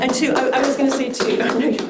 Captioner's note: crowd clapping